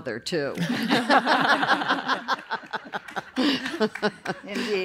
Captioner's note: laughter